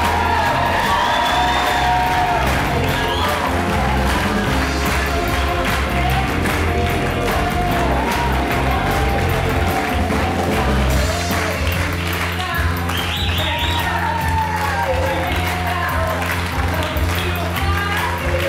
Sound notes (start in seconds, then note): 0.0 cheering swells, whistling; 10.0 applause